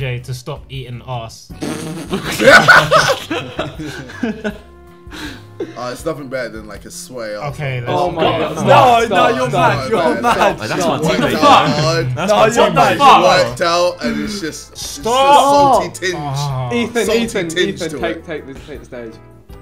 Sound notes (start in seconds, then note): 1.8 everyone laughing